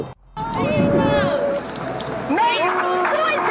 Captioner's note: indistintive screams